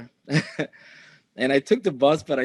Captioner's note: chuckling